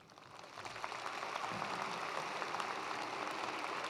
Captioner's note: attendees applauding